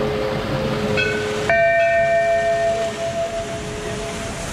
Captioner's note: bell sound